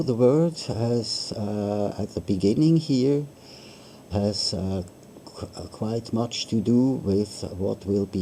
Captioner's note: hmmm